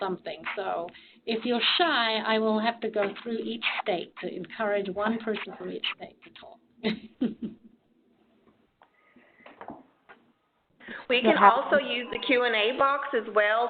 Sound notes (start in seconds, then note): 6.8 chuckles